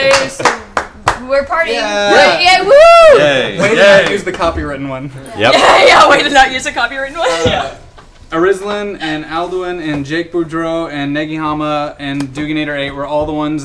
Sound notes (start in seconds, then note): 0.0 sings; 5.4 laughs